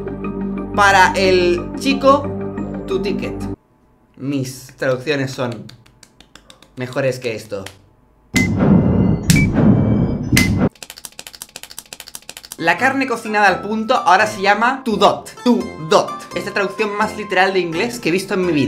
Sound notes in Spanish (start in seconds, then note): 8.3 Sonido regresivo de una bomba; 11.3 aplaudiendo como loco